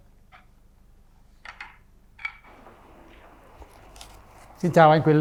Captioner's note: applause